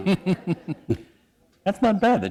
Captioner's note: laughter